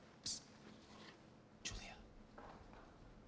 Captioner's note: whispering